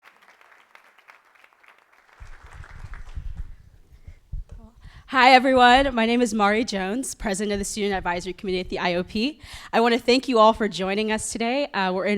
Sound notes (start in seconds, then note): 0.0 applause